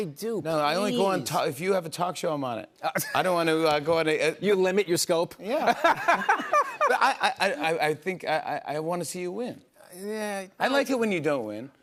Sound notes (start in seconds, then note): 5.6 laughter